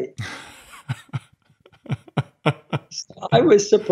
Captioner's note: laughing